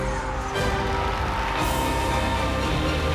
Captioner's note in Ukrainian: оплески